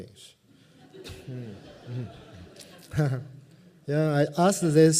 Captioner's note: laughter